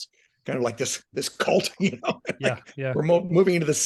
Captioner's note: laughing